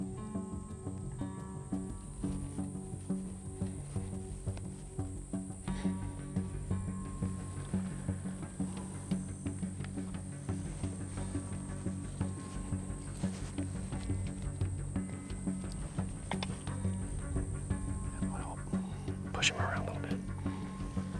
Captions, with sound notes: (suspenseful music continues) (grass rusting) - We'll push 'em around a little bit.